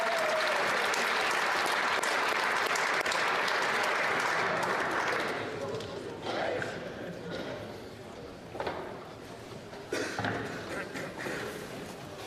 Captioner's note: applause